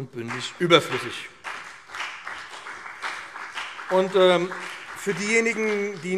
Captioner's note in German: Beifall BÜNDNIS 90/DIE GRÜNEN und CDU